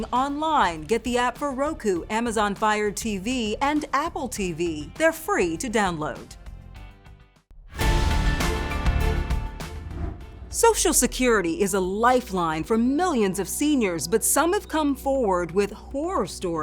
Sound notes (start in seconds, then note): 7.1 upbeat music; 7.8 air whooshing